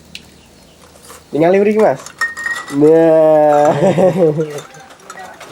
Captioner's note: just laughing